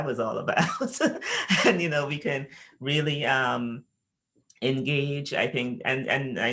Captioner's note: laughs